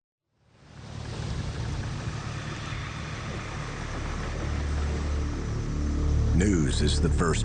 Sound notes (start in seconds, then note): 0.5 waves sloshing; 3.5 suspenseful music